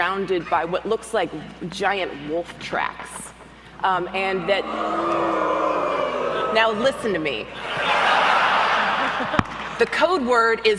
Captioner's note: audience howls